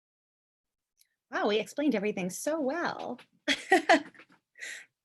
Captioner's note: chuckle